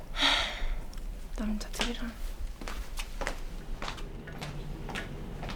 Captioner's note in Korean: 한숨